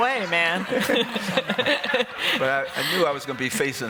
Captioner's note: laughter